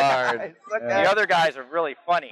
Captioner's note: laughs